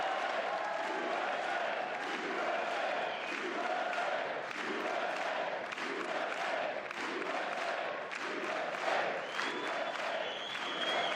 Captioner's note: applause